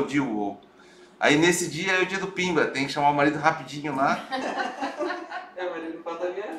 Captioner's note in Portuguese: risos